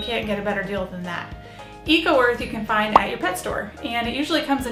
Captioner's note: popping sound as images come up